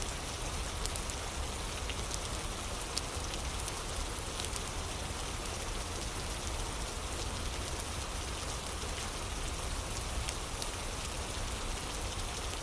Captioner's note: fire crackling